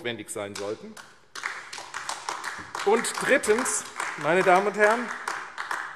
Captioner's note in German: Beifall AfD